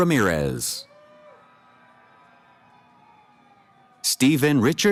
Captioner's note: cheering